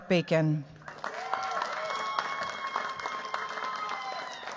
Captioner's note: cheers, applause